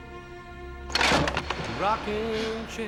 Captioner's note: cracks